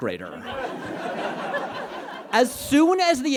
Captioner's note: audience laughs